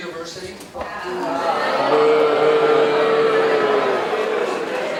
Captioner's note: audience booing